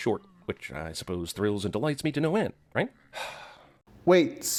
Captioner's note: sigh